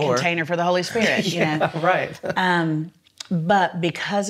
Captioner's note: laughs